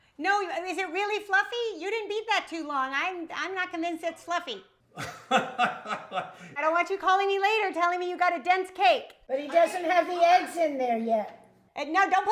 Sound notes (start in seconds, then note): 4.9 laughs